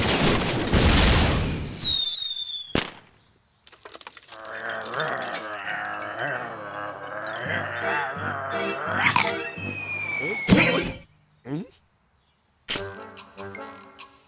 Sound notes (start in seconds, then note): 1.5 whistles and pops; 4.3 growling